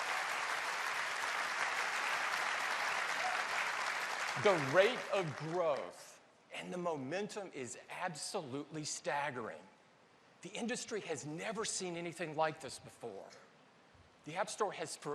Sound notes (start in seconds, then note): 2.7 applause